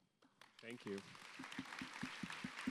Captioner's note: audience applauds